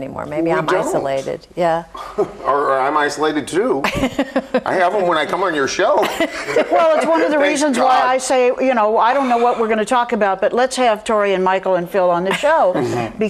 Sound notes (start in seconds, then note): 5.8 group laughs